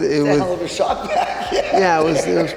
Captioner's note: laughing